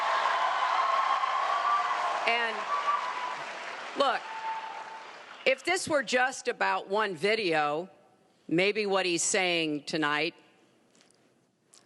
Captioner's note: applause